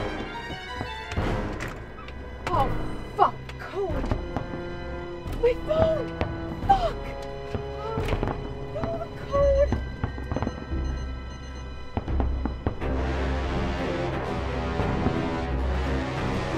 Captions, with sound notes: - Oh fuck. The code. My phone! Fuck! I don't know the code! (keypad beeping) (suspenseful music)